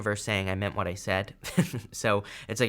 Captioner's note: chuckles